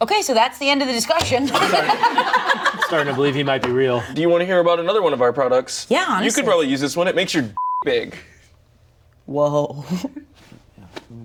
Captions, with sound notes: - Okay, so that's the end of the discussion. (all laugh) - I'm starting to believe he might be real. - Do you wanna hear about another one of our products? - Yeah, let's hear. - You could probably use this one, it makes your (beep) big. - Whoa. (chuckles)